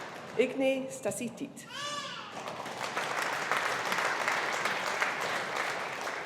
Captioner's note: audience applauding